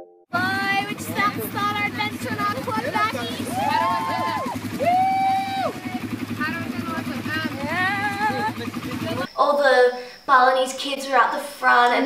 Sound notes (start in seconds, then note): 3.2 cheers